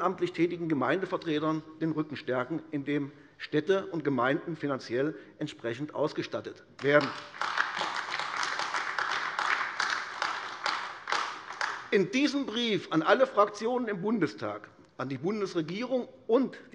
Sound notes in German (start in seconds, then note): 6.8 Beifall AfD